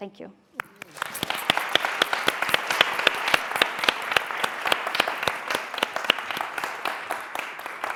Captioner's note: applause